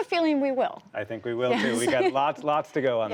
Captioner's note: laughter